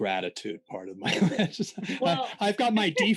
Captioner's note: laughing